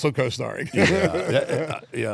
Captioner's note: laugh